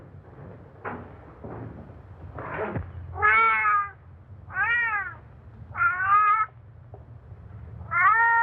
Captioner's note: Satan meows